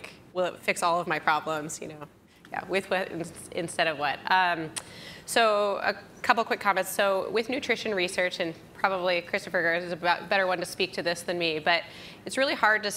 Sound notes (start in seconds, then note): none